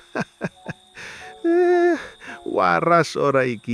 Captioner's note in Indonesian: tertawa